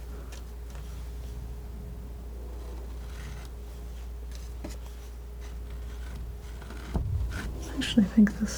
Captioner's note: scratching